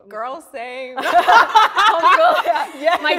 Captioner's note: all laughing